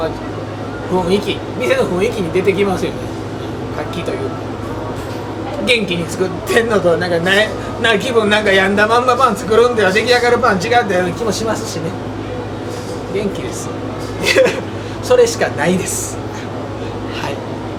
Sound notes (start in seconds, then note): 14.0 laughs